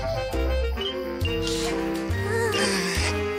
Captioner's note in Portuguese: suspiros